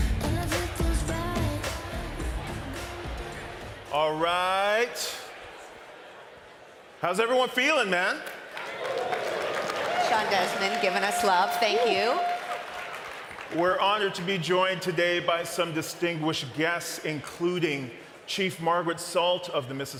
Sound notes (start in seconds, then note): 1.5 cheering and applause